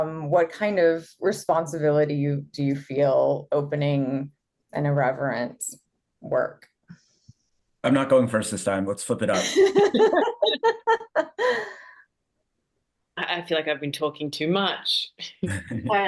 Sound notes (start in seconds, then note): 9.2 laugh